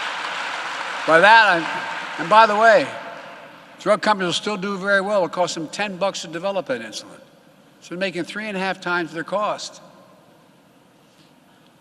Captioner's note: applause